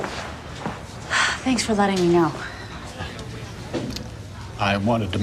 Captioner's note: sighs